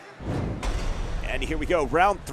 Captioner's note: whoosh sound effect